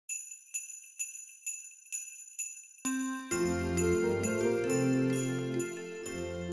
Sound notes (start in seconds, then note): 0.0 bells ringing; 2.8 upbeat seasonal music